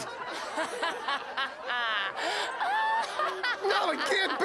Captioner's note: laughing